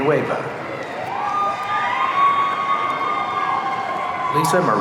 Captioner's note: audience cheering